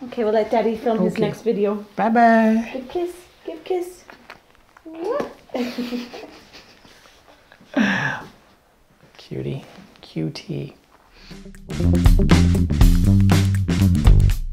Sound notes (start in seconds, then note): 5.4 laughs; 11.3 upbeat music